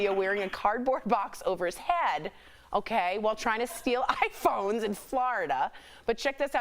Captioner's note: laughter